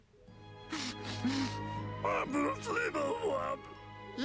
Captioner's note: sniffling